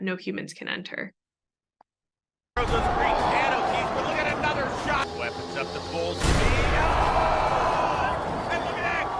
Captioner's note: overlapping voices and crowd noises